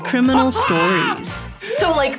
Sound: both laugh

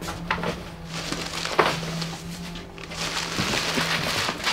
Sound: bumping sound; paper rustling

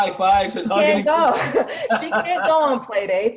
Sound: laughs

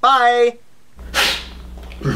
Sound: scoffs

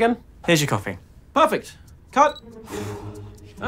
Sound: camera beeps; relieved exhale

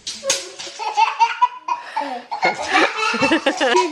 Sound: baby laughing

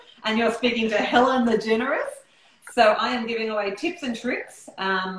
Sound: none

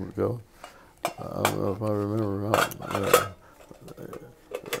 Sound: metal clanking

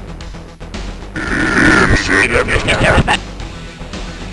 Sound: backwards speech

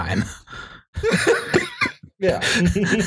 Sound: laughter

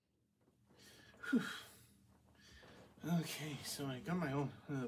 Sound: phews

